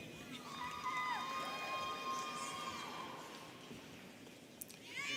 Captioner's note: students cheering